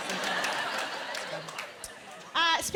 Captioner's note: laughter